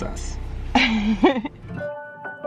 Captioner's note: laughs; gentle piano music